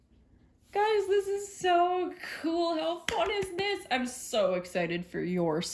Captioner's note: claps with excitement